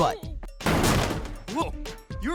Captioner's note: smashing